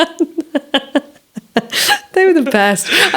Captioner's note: all laughing